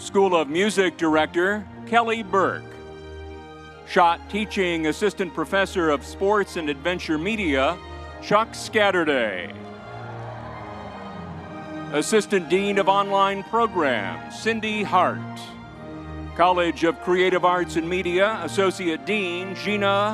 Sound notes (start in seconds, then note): 9.4 crowd cheering